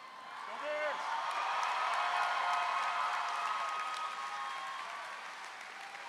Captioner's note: crowd cheers